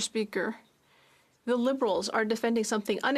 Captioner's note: speaking French